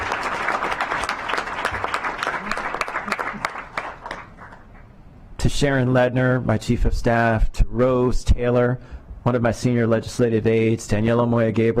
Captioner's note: clapping